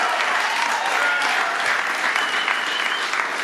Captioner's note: cheers and applause